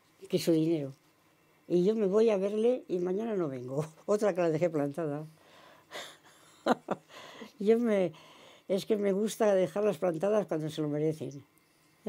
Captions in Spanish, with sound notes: que su dinero. Y yo me voy a verle y mañana no vengo". Otra a la que dejé plantada. [ríe] Es que me gusta dejarlas plantadas cuando se lo merecen. Ya está.